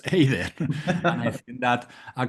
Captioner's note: laugh